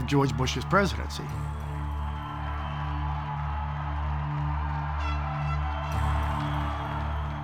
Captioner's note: crowd cheering and applauding